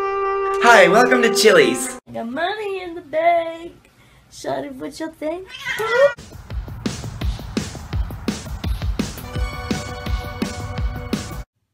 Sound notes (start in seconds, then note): 5.4 cat meows